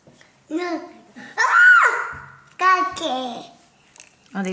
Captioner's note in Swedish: skriker